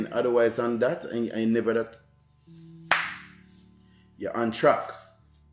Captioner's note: claps